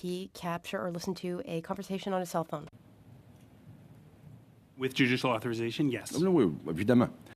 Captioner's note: speaking French